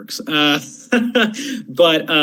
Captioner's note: chuckling